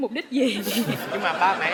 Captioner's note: laughing